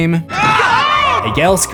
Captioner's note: screams